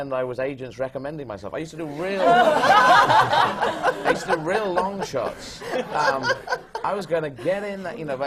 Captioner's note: laughter